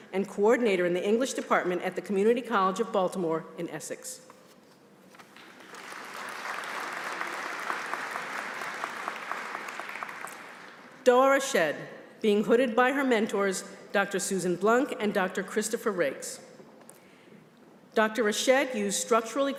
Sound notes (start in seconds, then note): 5.4 applause